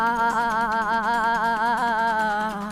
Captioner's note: laughing